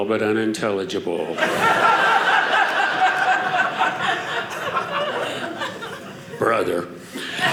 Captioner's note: audience laughing